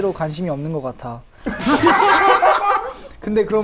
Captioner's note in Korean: 공감의 웃음